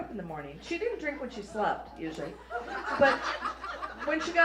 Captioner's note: laughter